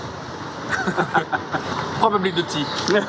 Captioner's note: laughter